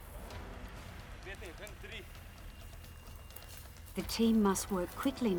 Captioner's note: speaking foreign language